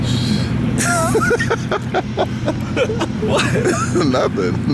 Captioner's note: laughs